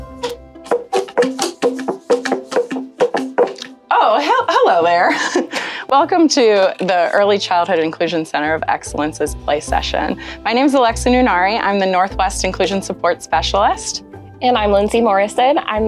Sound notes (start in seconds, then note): 0.1 percussion sounds; 4.0 laughs